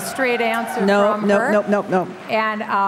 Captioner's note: applause